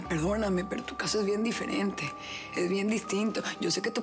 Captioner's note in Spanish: none